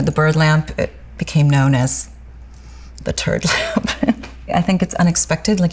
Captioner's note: laughs